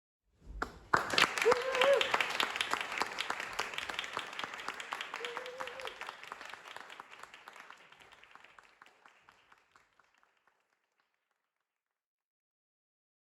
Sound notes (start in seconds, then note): 0.5 applause